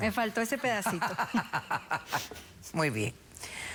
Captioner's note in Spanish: risas